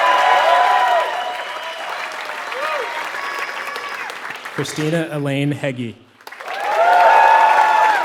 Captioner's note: applause